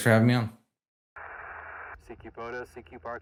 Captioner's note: radio static hissing